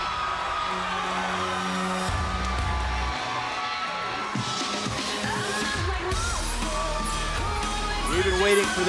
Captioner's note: cheers & applause